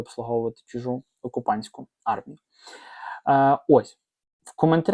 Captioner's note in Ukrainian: сопіння